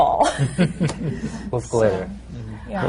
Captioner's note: laughter